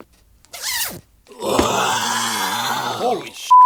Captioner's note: growling